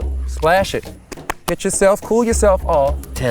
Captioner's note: hands pat